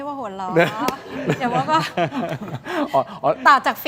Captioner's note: laughs